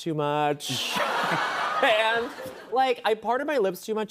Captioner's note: laughter